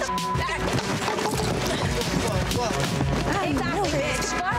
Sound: cups fall down

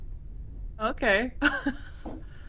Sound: chuckles

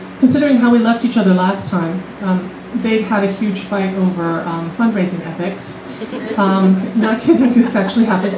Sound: laughter

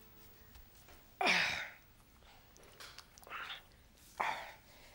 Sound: groaning

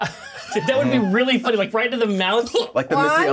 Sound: laughs

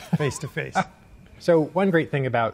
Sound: laughing

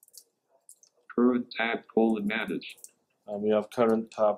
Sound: computerised voice

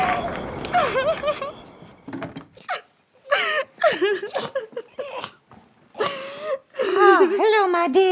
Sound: crickets; sobbing

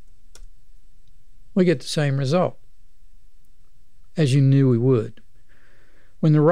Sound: clicking

